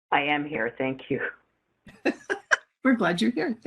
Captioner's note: laughing